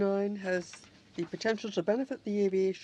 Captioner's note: speaking french